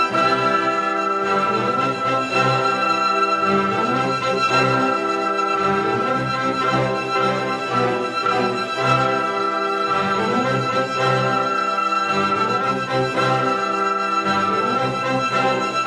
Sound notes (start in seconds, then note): none